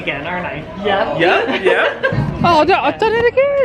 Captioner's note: laughing